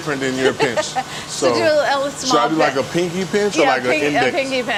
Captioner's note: laughs